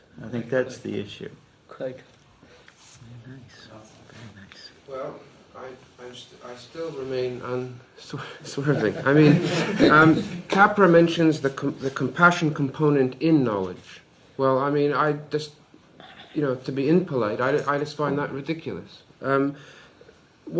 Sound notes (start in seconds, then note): 10.3 laughs; 11.3 laughter